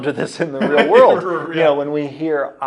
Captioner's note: laughing